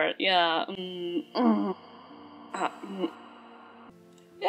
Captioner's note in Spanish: ruidos de deliberación